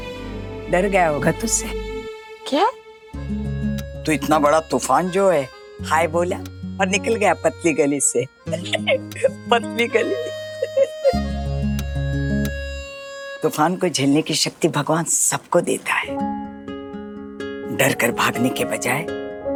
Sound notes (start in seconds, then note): 8.5 chuckling